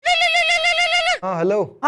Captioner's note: phone ringing